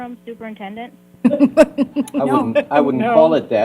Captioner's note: laughter